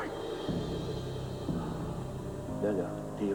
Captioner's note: Respiration ardue